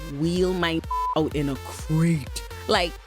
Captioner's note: beep